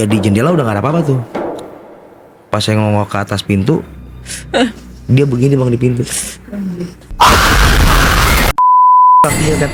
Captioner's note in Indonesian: tertawa